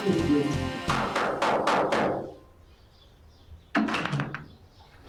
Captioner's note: Skipper knocking